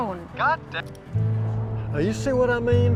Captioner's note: on phone